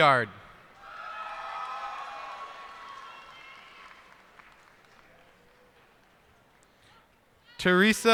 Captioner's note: cheers and applause